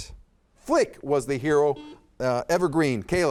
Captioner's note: buzzer dings